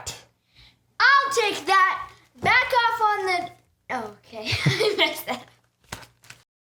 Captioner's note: laughing